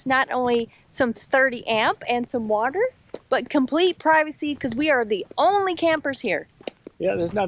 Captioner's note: none